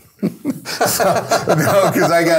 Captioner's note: both laugh